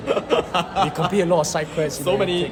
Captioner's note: laughs